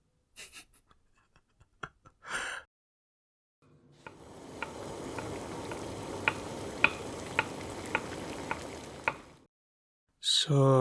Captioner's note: brief snicker